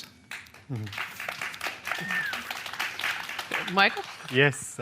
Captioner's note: applause